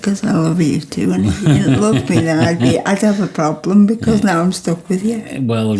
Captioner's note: chwerthin